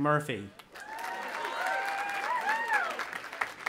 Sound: cheering

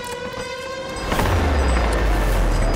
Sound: clashing

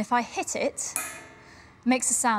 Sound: dull clang

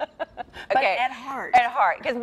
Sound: laughs

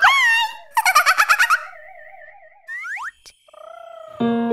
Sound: Teeny giggling

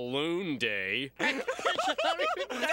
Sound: laughing

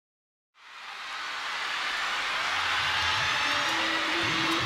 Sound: crowd cheering

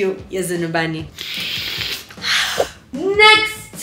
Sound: olympic sniff

